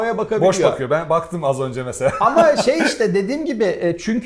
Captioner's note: laughs